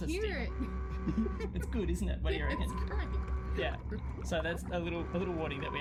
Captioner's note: submarine dive alarm